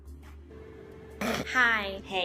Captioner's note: chill music plays faintly; snorts